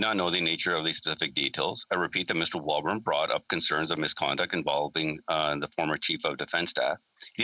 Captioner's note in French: voix de l'interprète